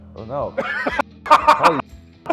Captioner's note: Ethan laughing